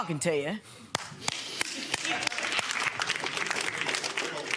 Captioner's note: clapping